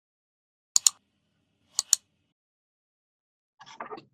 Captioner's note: button clicking